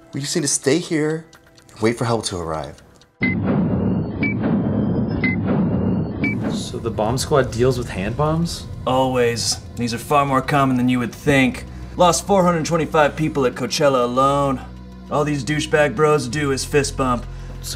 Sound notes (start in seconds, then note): 3.2 clock blips